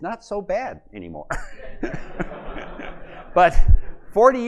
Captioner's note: laughter